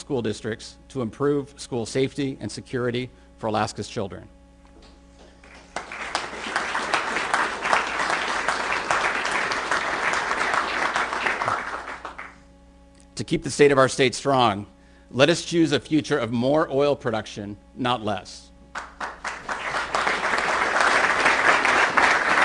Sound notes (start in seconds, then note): 5.4 applause; 18.7 applause